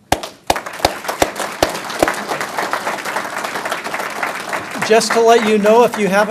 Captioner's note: applause